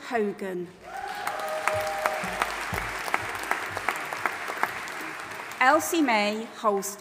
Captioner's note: audience applauding and cheering